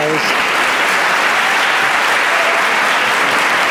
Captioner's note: applause